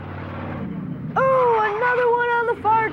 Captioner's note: engine rumbling